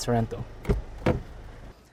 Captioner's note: door opens